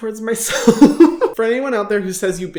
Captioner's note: chuckles